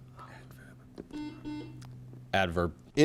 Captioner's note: buzzer chimes